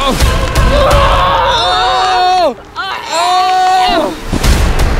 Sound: screaming

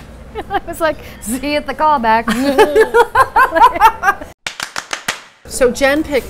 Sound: laughs

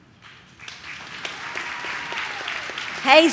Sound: audience claps

